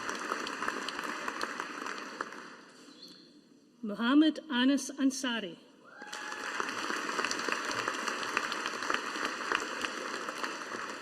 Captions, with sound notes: Muhammad Anas Ansari. (AUDIENCE APPLAUDING)